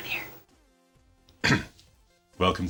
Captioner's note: whispers; clears throat